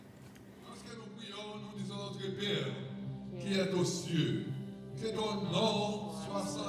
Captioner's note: man speaking Haitian Creole